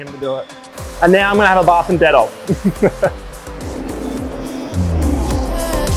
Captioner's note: laughs; upbeat music